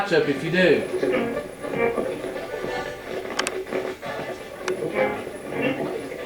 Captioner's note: radio channel changing